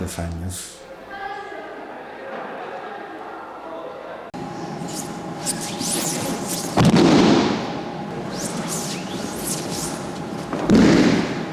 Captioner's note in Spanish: Sonido de caídas en tatami